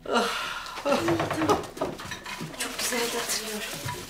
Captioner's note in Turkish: Gülme sesi